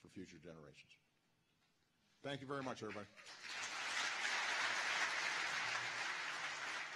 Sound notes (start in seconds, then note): 2.7 applause